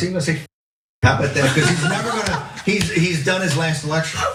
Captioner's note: laugh